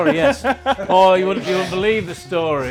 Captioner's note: laughs